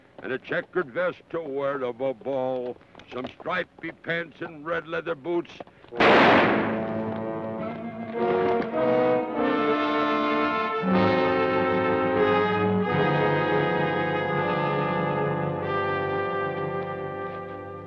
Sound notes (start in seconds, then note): 6.0 ominous orchestral music; 6.0 gun fires